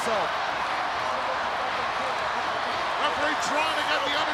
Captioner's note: crowd cheering